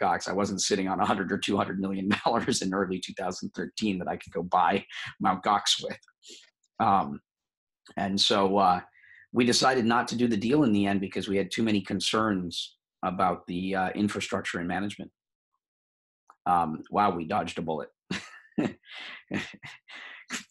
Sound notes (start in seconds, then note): 18.1 chuckles